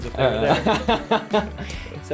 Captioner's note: laughs